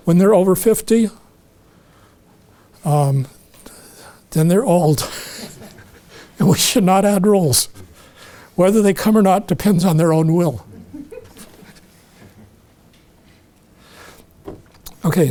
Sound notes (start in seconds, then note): 5.0 chuckling; 13.3 audience chuckling